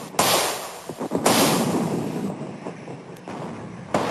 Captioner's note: artillery firing